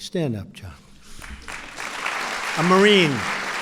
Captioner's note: applause